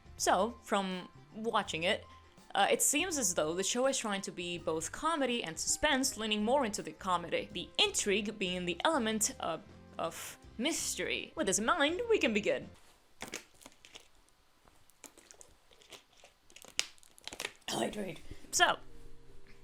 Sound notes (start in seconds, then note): 13.1 water bottle crinkling; 17.7 coughs